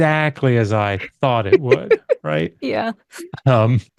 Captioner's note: laughs